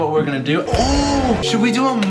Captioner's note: exclaims